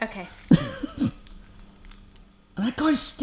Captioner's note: laughs